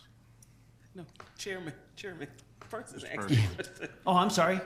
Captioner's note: laughs